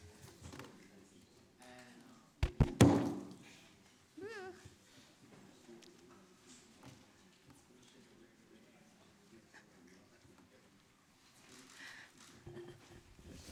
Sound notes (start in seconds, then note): 2.4 sharp bang